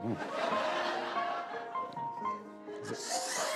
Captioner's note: laughter